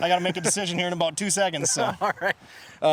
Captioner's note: chuckles